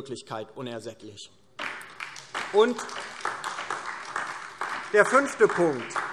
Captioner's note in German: Beifall DIE LINKE und vereinzelt SPD